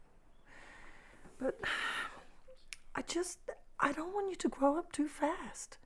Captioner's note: sighs